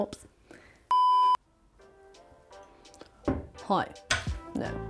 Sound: screen beeping

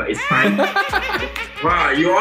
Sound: laughs

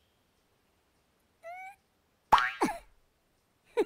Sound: grunting; giggles

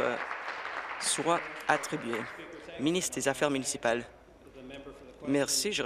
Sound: applause

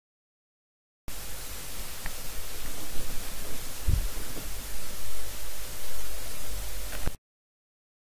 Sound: sound of static radio

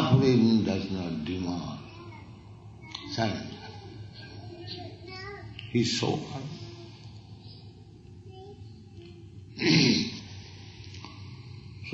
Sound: voice choking

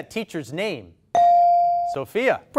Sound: ding

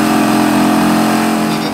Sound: drilling

